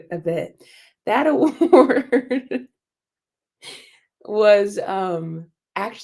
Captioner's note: laughter